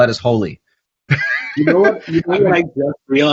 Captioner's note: laughs